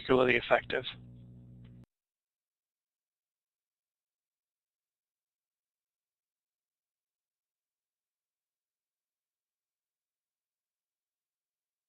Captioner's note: silence